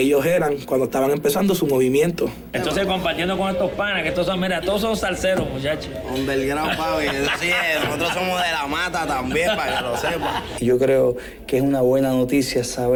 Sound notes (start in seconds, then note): 7.4 laughs